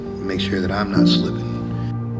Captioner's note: none